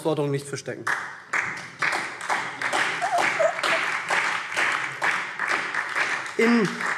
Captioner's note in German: Beifall SPD